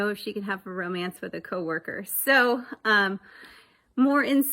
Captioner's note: none